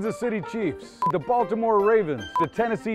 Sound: beep

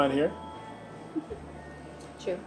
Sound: laughs

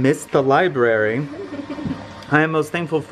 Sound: giggles

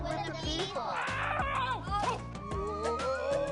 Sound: yells

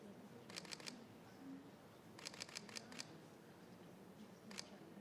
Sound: camera shutter clicks

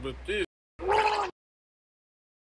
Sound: vomit Sound

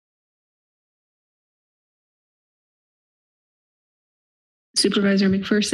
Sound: silence

